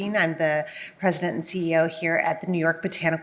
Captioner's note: none